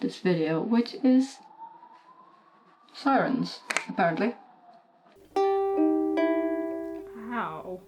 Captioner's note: sirens in the background